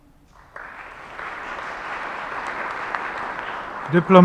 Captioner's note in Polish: oklaski